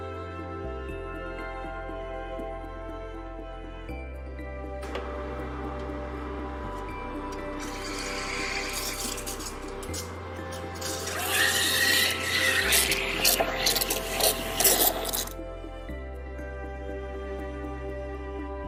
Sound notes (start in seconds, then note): 7.6 dispenser pouring; 10.8 dispenser hissing